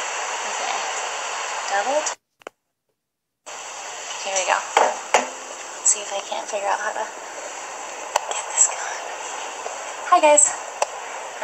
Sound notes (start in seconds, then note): 0.0 background ocean sounds; 3.2 background ocean sounds; 8.8 background ocean sounds